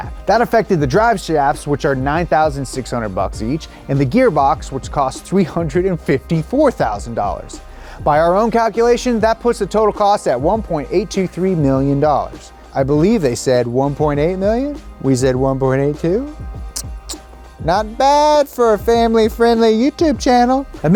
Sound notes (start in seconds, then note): 16.7 smooch sound